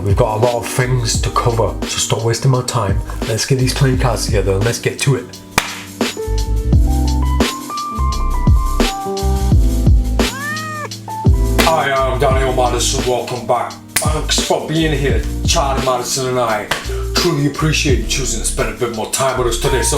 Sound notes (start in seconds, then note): 5.6 claps; 6.8 light music; 10.2 cat meows